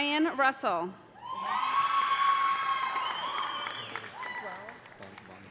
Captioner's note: audience cheering; audience applauding